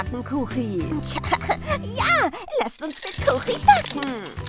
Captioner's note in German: Lacht